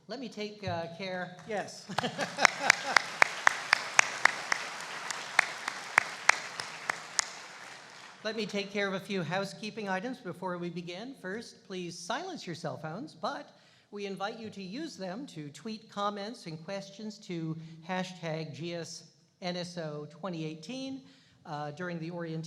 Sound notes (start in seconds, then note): 1.8 laughing; 3.0 applauding